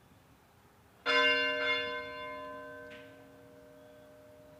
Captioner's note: bell ringing